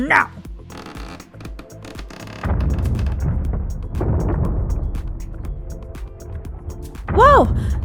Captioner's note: creak; explosions